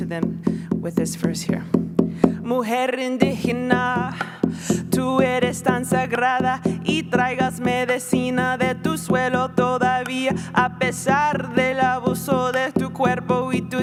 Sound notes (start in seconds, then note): 2.2 Spanish